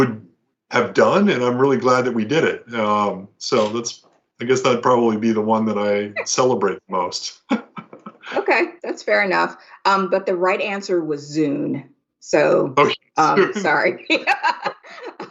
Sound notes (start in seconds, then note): 13.4 laughter